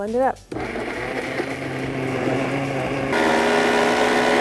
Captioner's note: blender whirring; amplified blender whirring